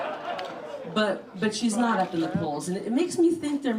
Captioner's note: laughter